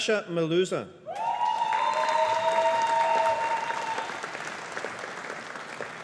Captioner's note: audience applauding